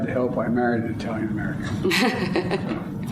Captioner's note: laughs